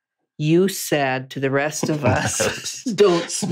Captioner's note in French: rires